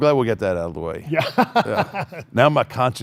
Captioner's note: laughs